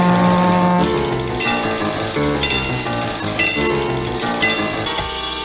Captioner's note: crossing Gates Closes